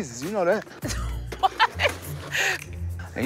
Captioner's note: laughing